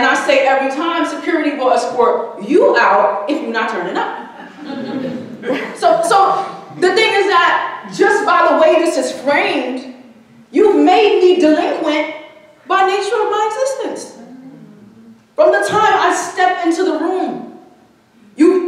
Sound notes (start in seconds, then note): 4.2 audience chuckling